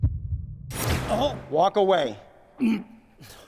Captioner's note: aggressor grunting